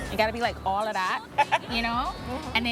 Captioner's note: laughs